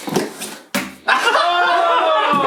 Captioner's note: thuds; shouts and laughs